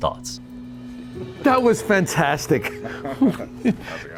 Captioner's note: chuckling